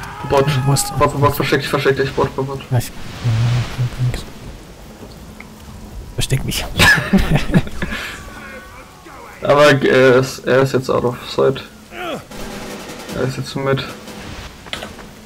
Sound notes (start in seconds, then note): 6.7 laughing